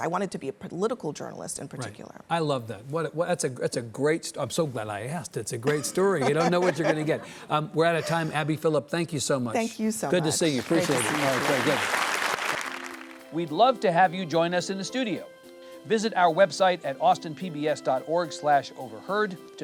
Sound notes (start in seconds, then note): 5.6 Abby laughs; 10.2 audience claps; 12.8 soft music